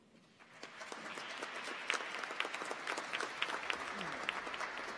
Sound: audience applauds

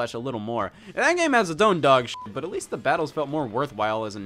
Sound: beep

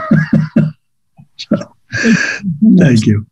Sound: laughs

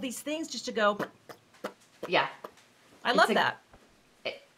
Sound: blowing raspberries

